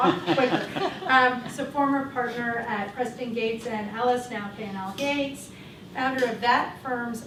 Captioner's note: chuckle